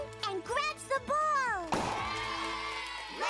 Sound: cheering

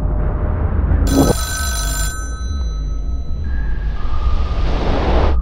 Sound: telephone rings

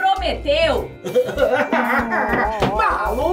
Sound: whining

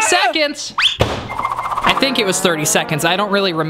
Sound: whistle; beeping

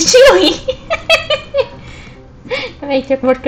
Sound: laughs

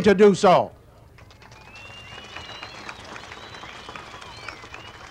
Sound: crowd cheering and applauding

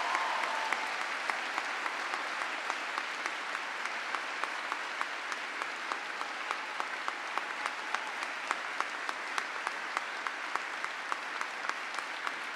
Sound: cheering and applause

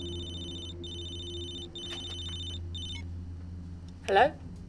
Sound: phone ringing

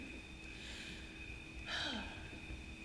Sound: sighs

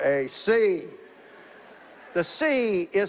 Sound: congregation laughing

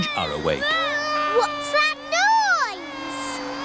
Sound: vacuum cleaner whirring

